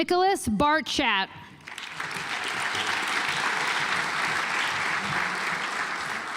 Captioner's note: audience applauds